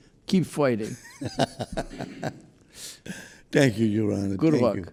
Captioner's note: laughing